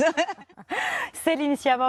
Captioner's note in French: rires